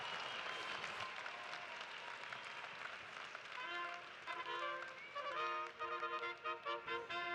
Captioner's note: cheers and applause